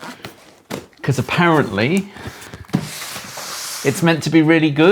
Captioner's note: box scraping